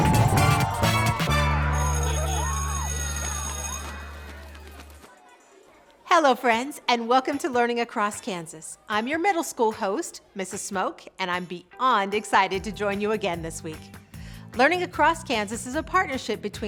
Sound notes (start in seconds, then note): 0.8 bus horn toots; 1.2 school bell rings